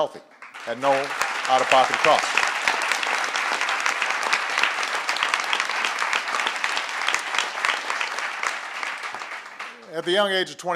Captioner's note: applause